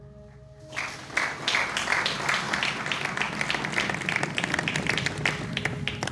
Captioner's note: applause